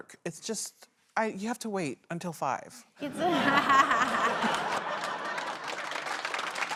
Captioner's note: laughter